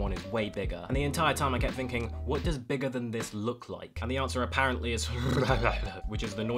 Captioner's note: mumbling in awe